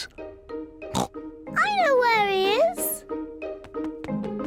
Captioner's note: snorts